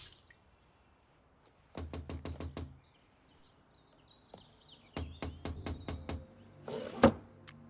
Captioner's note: knocking on door